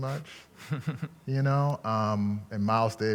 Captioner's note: laughing